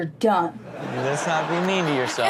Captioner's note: audience laughs